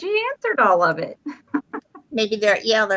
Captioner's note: chuckles